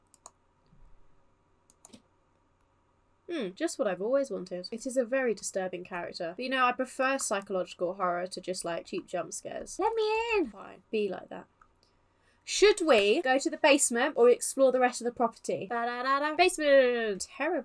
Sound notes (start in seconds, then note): none